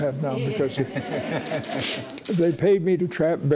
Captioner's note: audience laughing